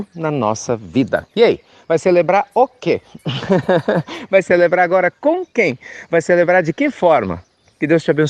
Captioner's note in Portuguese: Risos